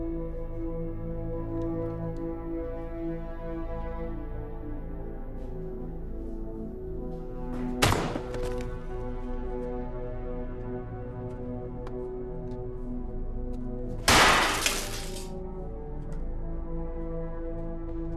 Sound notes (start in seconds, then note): 8.7 smashing; 14.2 sparking